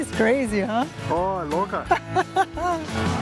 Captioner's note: laughs